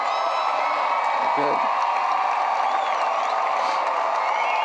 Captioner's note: applause